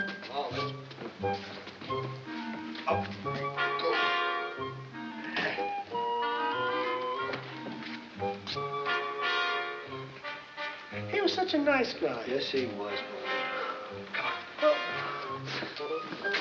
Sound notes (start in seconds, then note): 3.3 grunting